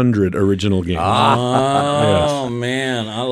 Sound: chuckles

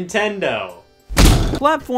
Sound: punching sound

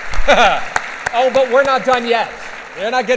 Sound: clapping

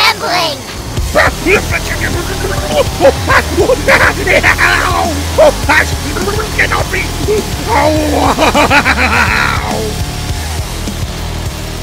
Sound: intense music; Eggman's screams of pain; loud chainsaw sounds

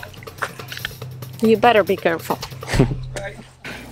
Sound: chuckles

